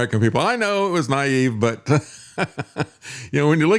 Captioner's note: laughing